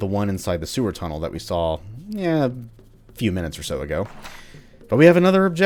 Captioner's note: journal opens